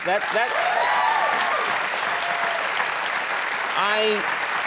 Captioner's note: audience cheering